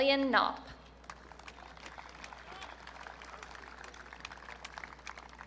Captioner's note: audience cheering